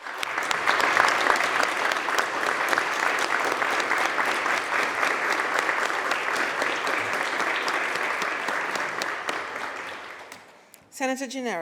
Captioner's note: applause